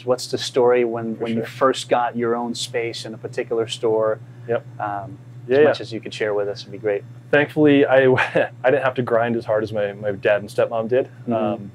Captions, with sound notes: What's the story when you-- - For sure. - First got your own space in a particular store, - Yep, yeah. - As much as you could share with us, that'd be great. - Thankfully, I (laughs) didn't have to grind as hard as my dad and stepmom did.